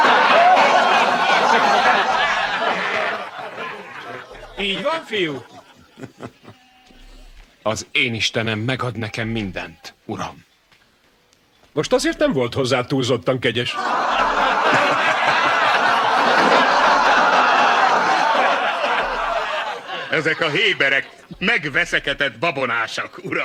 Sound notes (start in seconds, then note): 13.7 crowd laughs